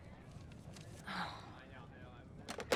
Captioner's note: sighs